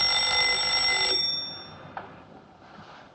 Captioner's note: ringing stops